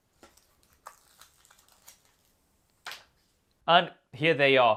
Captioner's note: paper rustles